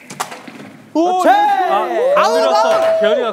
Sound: stumbling

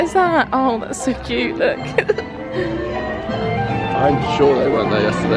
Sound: giggles

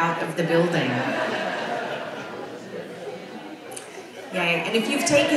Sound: audience laughs

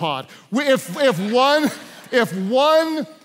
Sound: congregation laughs

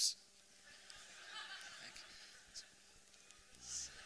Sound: laughter; more laughter

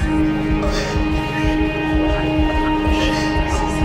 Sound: loud whimpers

